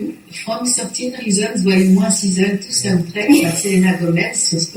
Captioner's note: speaks French